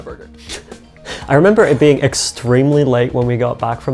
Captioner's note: chuckles